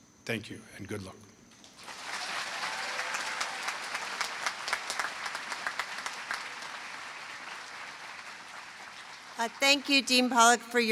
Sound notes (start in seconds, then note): 1.8 applause